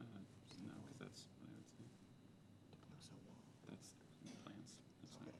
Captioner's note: players murmuring